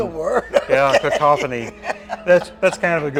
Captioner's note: laughing